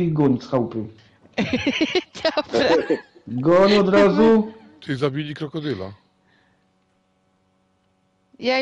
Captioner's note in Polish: śmiech